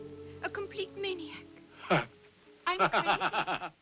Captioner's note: laughing